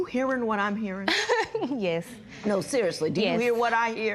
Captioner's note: laughs